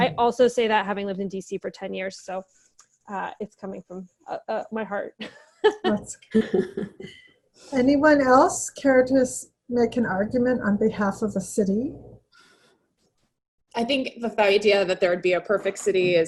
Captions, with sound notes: I also say that having lived in DC for 10 years, so it's coming from my heart. (laughs) - Anyone else cared to make an argument on behalf of the city? - I think the idea that there would be a perfect city